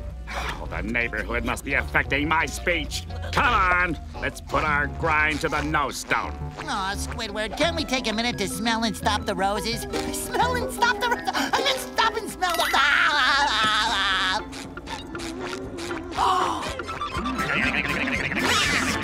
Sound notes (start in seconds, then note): 12.6 laughing; 15.8 gasping